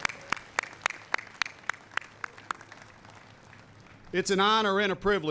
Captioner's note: applause